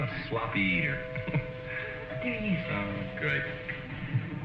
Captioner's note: door bell ringing